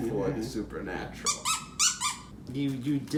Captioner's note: dog toy squeaks for emphasis